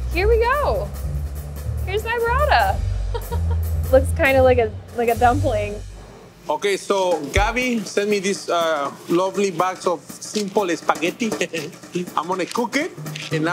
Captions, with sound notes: Here we go. Here's my burrata. [chuckling] Looks kind of like a dumpling. - Okay, so Gabi sent me this lovely box of simple spaghetti. [chuckling] I'm gonna cook it